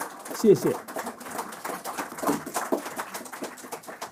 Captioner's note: applause